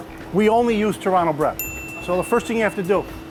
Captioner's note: ding